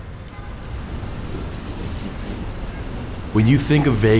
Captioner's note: car honks